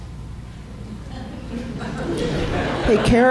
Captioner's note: laughter